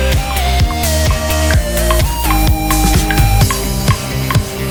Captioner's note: rhythmic clicking